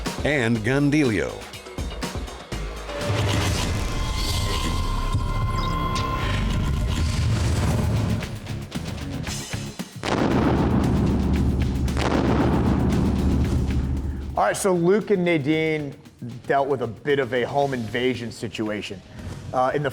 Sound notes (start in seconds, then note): 8.0 metal music; 10.0 gun firing